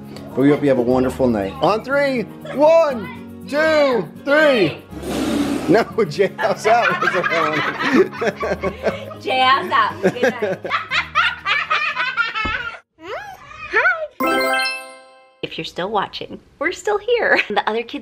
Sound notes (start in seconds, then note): 4.9 blowing raspberries; 10.0 laughing